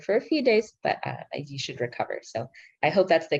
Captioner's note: speaking in foreign language